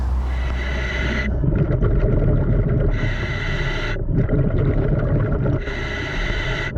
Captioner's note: water bubbling; mouthpiece hissing